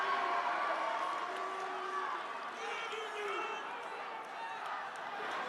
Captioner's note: cheers and applause